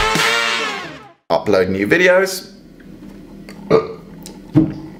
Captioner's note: burp